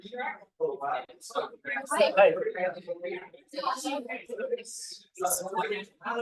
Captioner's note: class chattering indistinctly